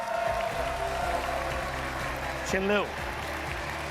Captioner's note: audience cheering and clapping